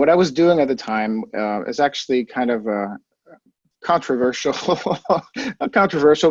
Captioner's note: chuckles